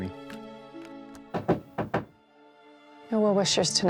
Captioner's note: knocking